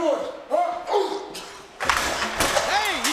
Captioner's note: objects clattering